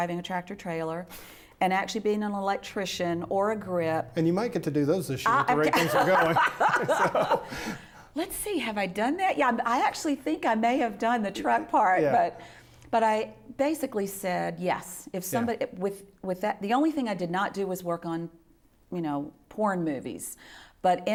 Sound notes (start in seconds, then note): 5.2 laughs